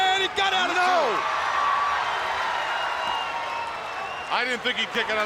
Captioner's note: crowd cheering